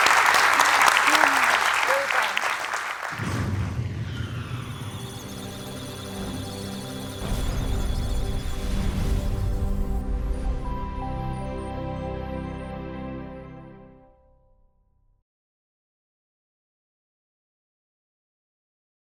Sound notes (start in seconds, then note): 0.0 applause; 4.4 electronic sounds of data; 4.4 musical tones